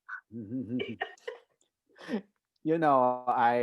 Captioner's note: laughs